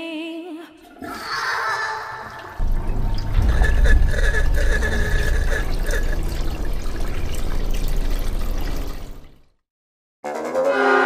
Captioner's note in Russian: звук слива воды в ванной, затем приглушённый крик